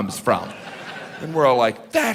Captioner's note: audience laughing